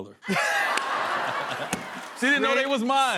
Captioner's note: laughter